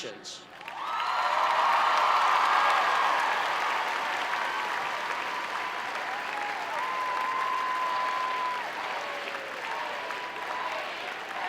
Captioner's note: cheering and Clapping